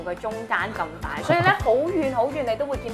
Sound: chuckling

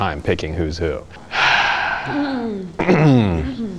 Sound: sighs; throat clearing

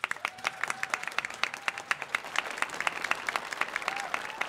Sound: audience applauding

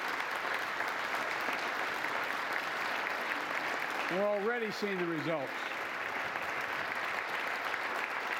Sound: applause

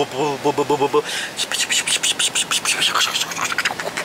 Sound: whispering

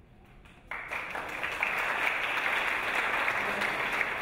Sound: audience applause

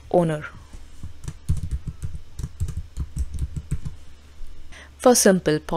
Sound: keyboard clacking

